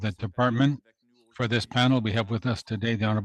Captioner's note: speaking French